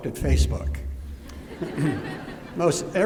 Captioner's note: laughter